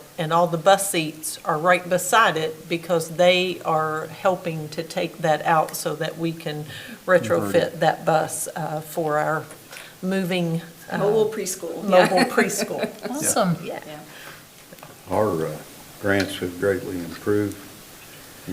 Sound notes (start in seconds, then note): 11.9 laughs